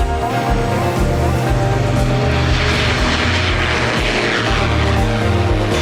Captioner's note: upbeat electronic music; plane engine roaring